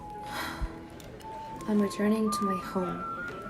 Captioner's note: sighs